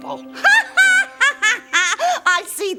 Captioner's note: laughing